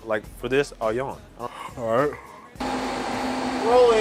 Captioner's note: yawning